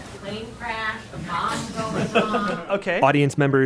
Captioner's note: laughter